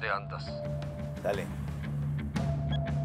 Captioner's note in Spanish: Bip